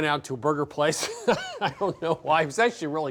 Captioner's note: laughing